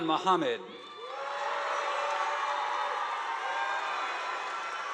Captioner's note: audience applauding